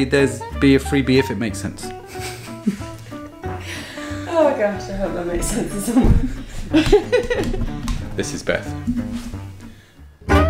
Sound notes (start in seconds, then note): 2.0 laughter